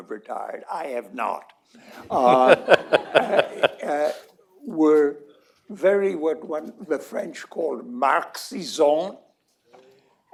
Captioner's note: laughter